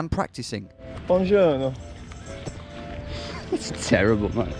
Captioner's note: speaking in a foreign language